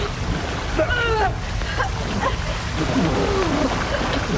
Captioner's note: grunting